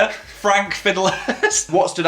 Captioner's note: laughs